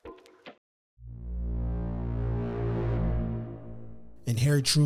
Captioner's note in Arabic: المركب مؤثرات صوتية